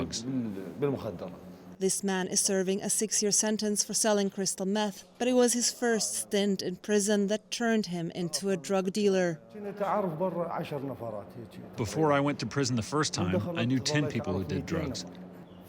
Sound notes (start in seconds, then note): 10.0 through translator